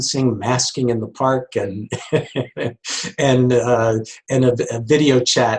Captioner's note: laughs